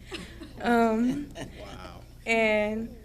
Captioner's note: audience laughing